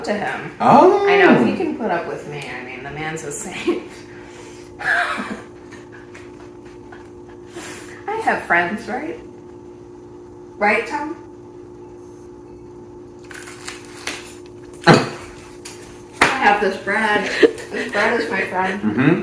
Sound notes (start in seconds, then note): 4.8 laughs